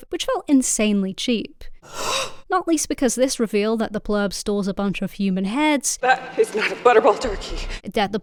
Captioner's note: gasp